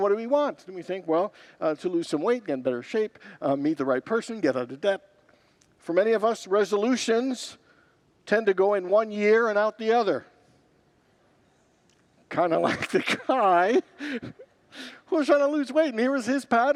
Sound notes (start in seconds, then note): 12.6 congregants laugh; 12.6 laughs